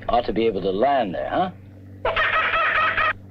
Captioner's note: Pete cawing